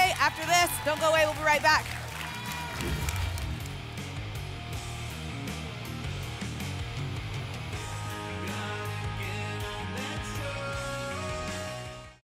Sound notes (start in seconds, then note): 2.8 whoosh